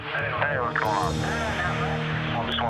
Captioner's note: on phone